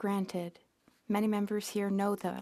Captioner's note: speaking French